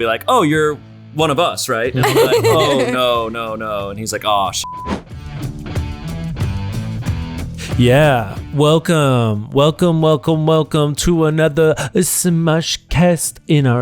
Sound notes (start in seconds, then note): 2.0 laughter; 5.1 hard rock music